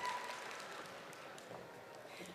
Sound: audience cheering

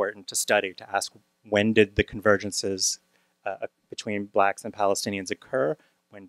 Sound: none

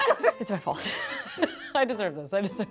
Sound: laughs

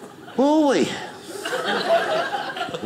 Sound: audience laughing

